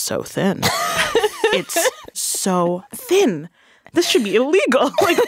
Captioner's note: laughing